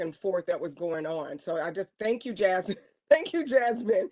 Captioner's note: laughter